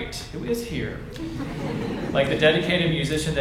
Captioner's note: audience laughs